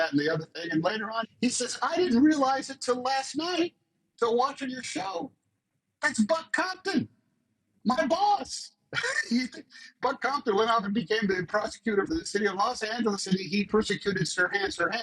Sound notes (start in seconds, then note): 8.9 laughs